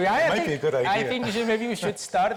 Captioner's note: laughs